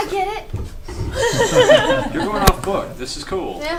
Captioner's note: all laugh